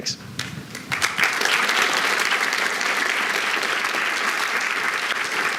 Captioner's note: applause